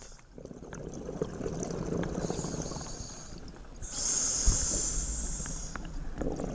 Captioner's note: air hissing; water bubbling